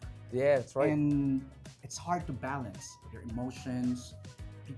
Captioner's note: none